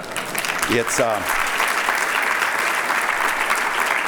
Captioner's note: applause; laughing